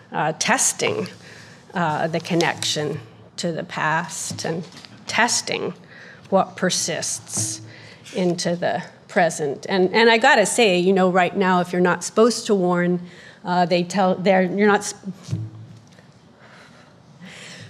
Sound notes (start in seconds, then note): 13.4 stammering